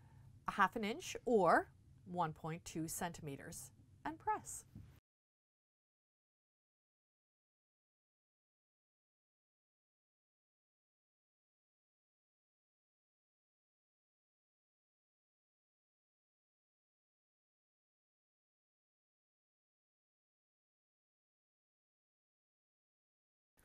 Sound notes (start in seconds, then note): 4.9 no Sound Present